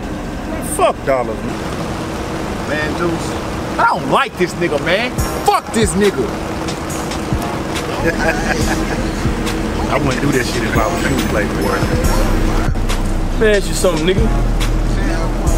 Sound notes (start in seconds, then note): 7.8 man laughing